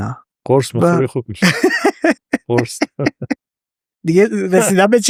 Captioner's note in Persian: خنده